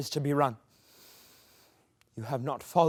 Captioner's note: inhales